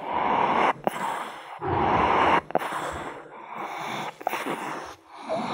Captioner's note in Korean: 숨소리 asmr